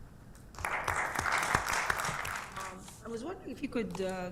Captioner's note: applause